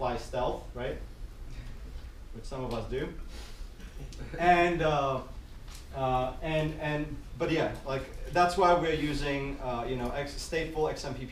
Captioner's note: giggles